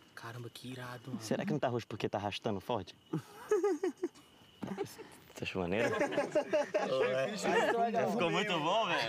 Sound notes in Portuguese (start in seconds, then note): 3.1 risada; 5.8 todos rindo